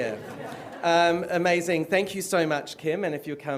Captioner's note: laughter